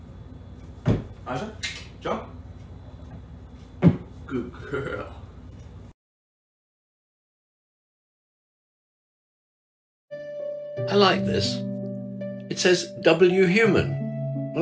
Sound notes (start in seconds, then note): 1.5 click click